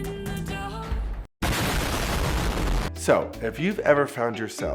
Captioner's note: bomb exploding loudly